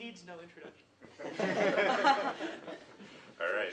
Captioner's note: laughter